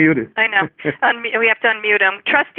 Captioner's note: trustee laughs